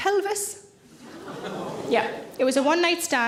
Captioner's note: audience gasp